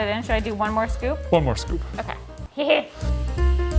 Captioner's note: laughs; jazz music